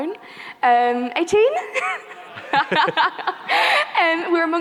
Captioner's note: laughs; laughing